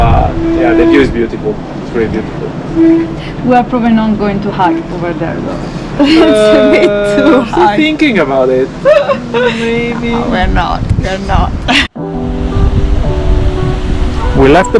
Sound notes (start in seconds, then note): 6.0 laughing; 11.9 chill music